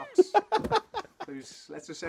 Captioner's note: laughter